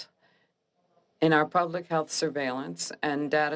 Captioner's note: speaking French